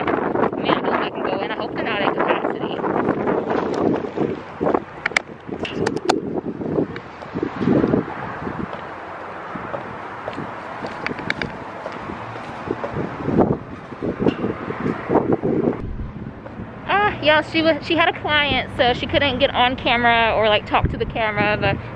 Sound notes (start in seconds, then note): 3.2 heels against pavement; 3.2 wind